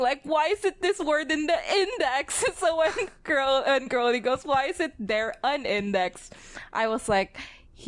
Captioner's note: laughs